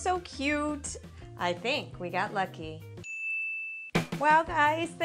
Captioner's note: ding